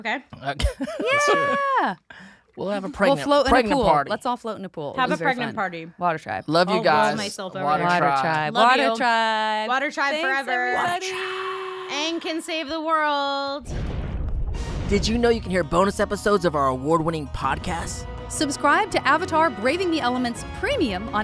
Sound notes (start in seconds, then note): 0.6 chuckles; 11.5 whispers